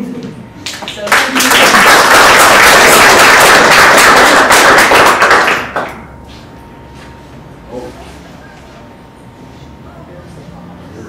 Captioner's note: applause